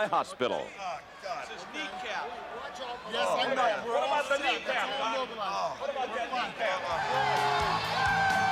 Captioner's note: crowd chattering